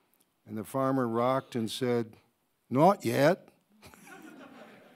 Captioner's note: audience laughing; laughs